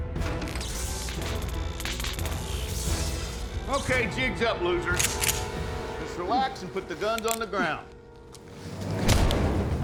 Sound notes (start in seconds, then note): 0.4 short-circuiting, crackling; 5.0 rifle clicks; 8.8 thud